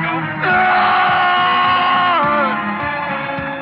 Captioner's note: screaming